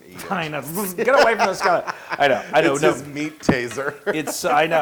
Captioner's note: laugh